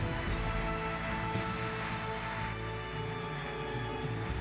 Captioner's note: audience applauding